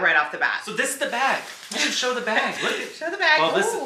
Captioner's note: laughs